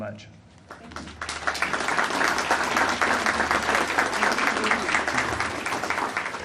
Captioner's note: audience applauding